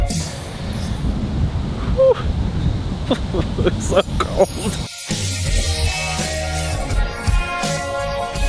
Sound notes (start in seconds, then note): 0.1 wind noises; 2.4 wind noises continue; 3.0 cries